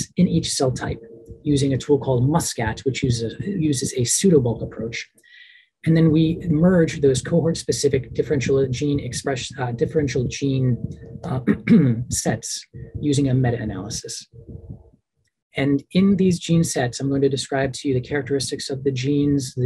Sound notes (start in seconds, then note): 11.4 clears throat